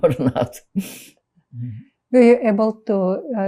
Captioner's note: laughing